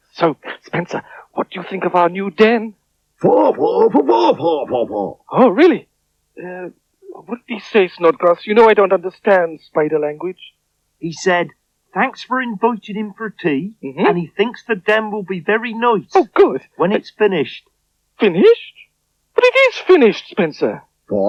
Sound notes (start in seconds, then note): 2.5 Spencer Talks In Spider Language